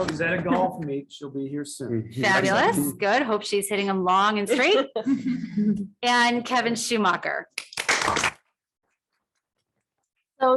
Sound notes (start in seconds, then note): 0.0 audience clapping; 4.8 audience chuckling; 7.5 audience clapping